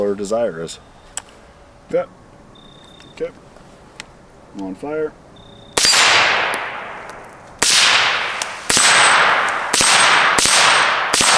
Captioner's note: supressed gunshots